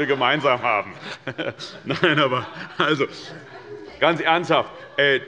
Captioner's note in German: Heiterkeit